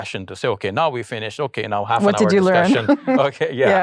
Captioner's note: laughs